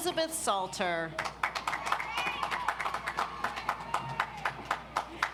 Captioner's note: audience applauds